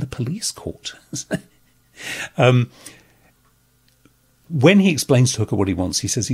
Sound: chuckles

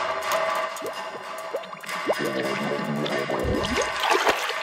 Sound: tapping continues

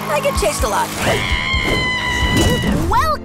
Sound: screaming

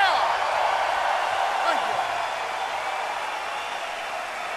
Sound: crowd cheering

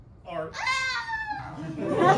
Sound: small scream; laughter

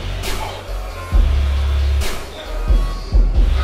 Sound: winces

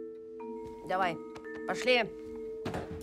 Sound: speaks gruffly in Russian

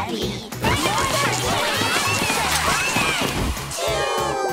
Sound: yelling

